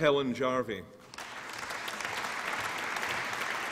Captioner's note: applause